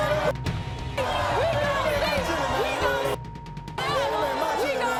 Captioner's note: beep